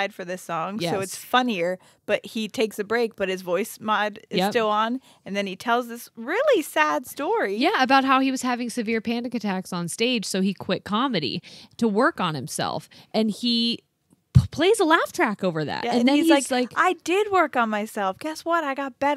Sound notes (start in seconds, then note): none